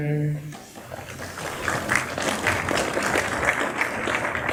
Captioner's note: applause